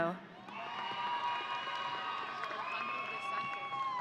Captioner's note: audience cheering